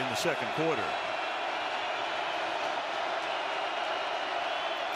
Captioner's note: cheering